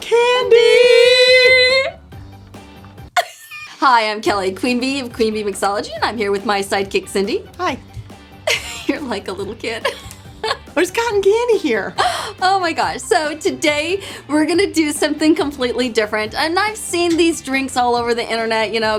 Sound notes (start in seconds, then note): 3.2 laughs; 8.4 laughs